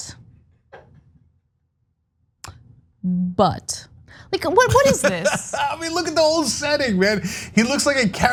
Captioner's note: laugh